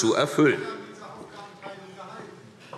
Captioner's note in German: Zurufe DIE LINKE